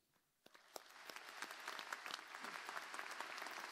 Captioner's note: applause